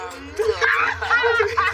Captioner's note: laughter